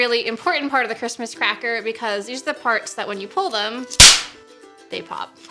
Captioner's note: small explosion